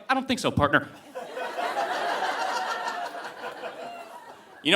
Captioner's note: audience laughing